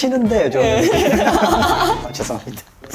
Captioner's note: laughing